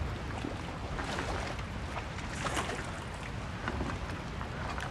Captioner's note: water splashing